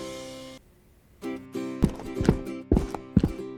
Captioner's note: footsteps